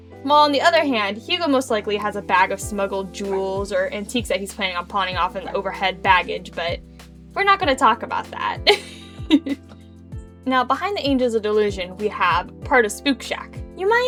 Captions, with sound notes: while on the other hand, hugo most likely has a bag of smuggled jewels or antiques he's planning on pawning off in the overhead baggage, but, we're not going to talk about that *giggles* now, behind the angels of delusion, we have part of spook shack!